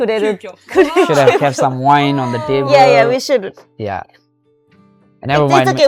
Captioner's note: laughs